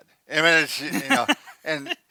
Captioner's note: laughs